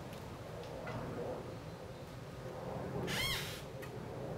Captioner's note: wood squeaking